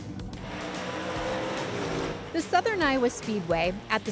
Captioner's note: engine running